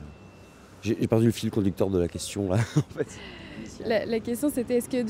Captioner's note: laughter